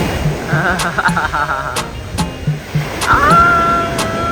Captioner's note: laugh